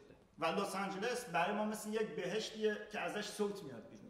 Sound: speaking in farsi

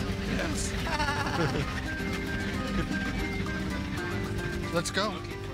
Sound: both chuckle

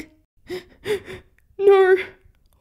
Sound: sniff, Sniff

